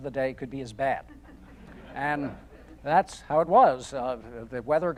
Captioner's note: audience chuckling